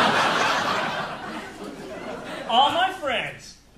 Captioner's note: audience laughing